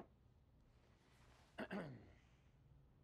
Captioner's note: Tommy clears his throat